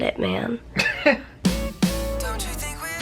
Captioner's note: chuckles